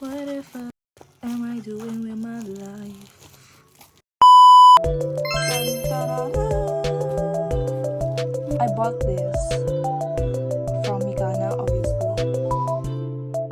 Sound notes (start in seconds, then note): 5.2 happy noises